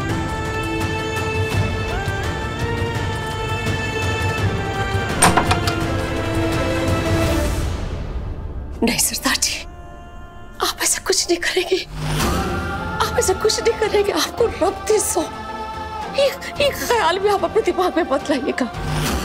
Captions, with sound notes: [doors rattling] No, Sardarji. You won't do that. You won't do that, for the sake of god! Don't even bring such a thought to your mind!